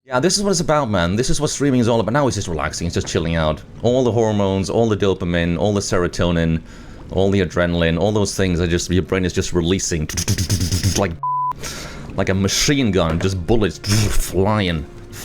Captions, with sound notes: Yeah, this is what it's about man. This is what streaming's all about. Now he's just relaxing. He's just chilling out. All the hormones, all the dopamine, all the serotonin... all the adrenaline. All those things are just... Your brain is just releasing *makes sound of bullets firing*. It's like ****. Like a machine gun. Just bullets flying.